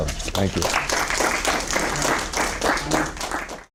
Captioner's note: applause